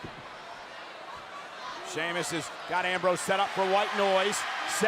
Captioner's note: applause